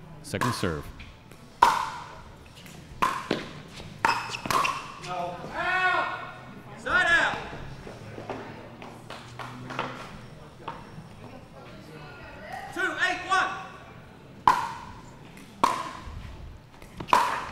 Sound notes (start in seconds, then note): 1.7 ball bouncing; 14.5 ball bouncing